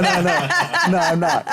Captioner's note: laughs